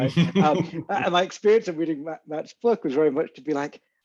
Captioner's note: laughs